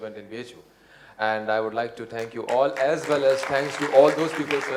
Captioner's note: applause